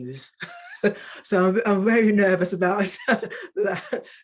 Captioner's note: woman chuckling